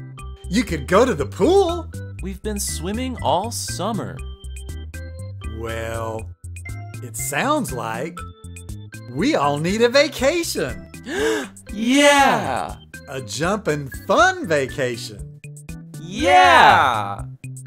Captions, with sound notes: You could go to the pool! We've been swimming all summer! Well.... ...it sounds like... ...we all need a vacation! (Gasp) Yeah! A jumpin' FUN vacation! YEAH!!!